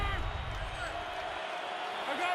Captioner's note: swoosh